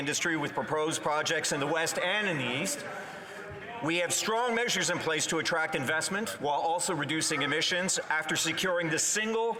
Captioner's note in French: voix de l'interprète